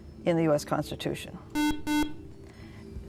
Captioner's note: buzzer